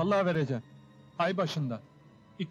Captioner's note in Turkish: none